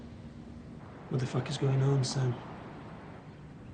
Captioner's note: car engine whirs